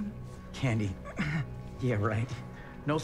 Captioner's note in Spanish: Gruñidos